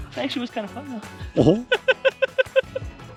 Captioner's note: laughter